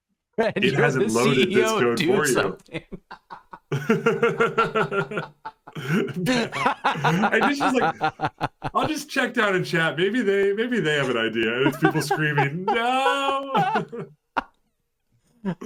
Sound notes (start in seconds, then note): 2.2 laughter; 11.4 laughter